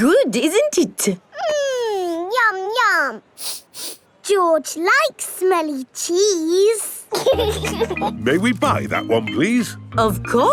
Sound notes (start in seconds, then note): 3.4 sniffs; 7.1 laughing